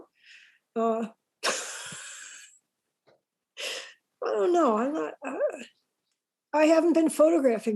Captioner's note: laughs